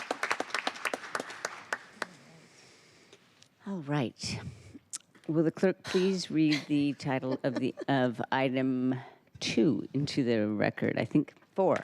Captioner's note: applause